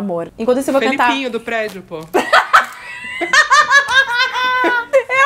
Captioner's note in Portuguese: risos